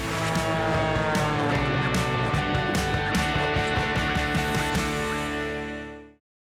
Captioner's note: upbeat music; plane engine